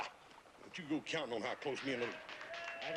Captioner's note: applause in distance